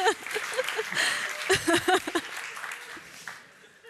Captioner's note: laughter